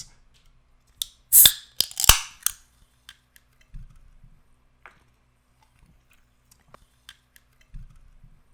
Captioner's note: sound of a pop can being opened